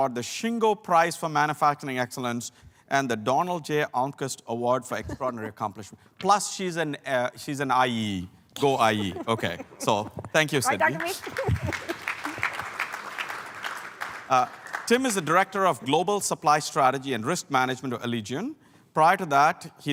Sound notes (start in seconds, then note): 10.6 applause; 10.7 laugh